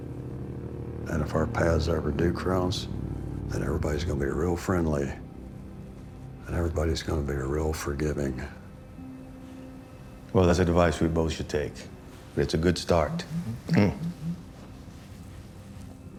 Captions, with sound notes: And if our paths ever do cross, then everybody's gonna be real friendly. And everybody's gonna be a real forgiving. Well, that's advice we both should take, but it's a good start. [PHONE VIBRATES]